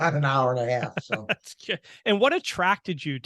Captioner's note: laughing